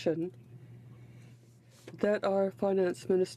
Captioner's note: speaking French